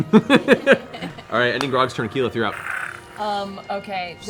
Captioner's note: laughs